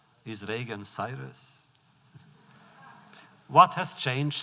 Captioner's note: laughter